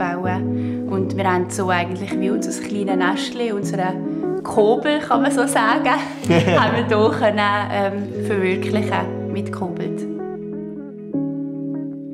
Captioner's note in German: lacht